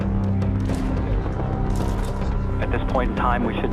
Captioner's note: rocket roaring; cameras clicking